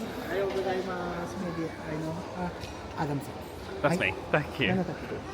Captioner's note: waiter speaking Japanese